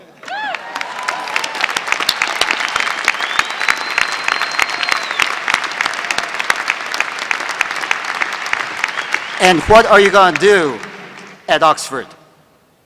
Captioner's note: applause